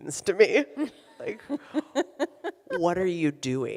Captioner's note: laughs